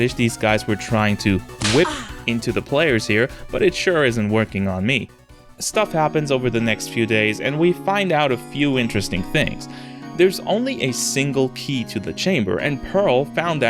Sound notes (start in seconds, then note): 1.6 whip